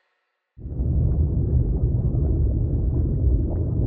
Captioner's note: submersible droning